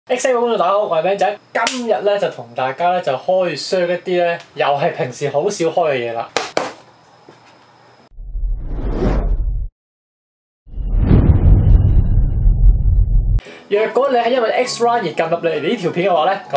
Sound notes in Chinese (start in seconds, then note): 6.3 啪x2